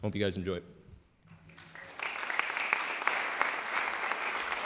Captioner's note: clapping